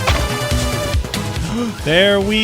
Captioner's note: gasp